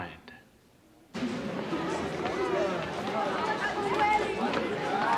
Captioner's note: indistinct chatter